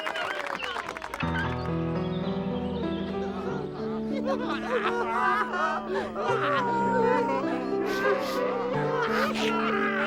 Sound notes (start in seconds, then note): 0.0 crowd cheering; 3.2 patrons weeping